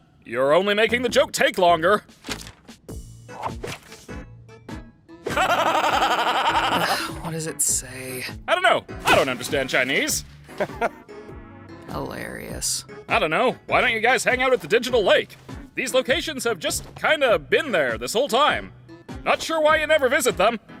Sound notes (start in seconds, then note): 5.3 laughs manically; 5.3 sighs; 10.5 chuckles